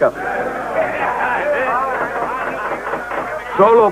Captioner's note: clamoring